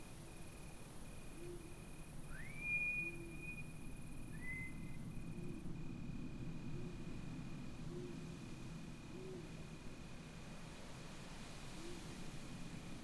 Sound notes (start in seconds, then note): 2.3 a second whistle, from the left